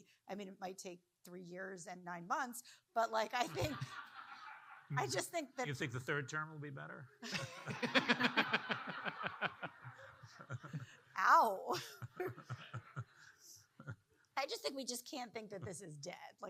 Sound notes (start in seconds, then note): 3.5 audience laughing; 7.3 audience laughing